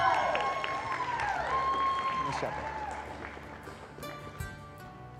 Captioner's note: cheering; applause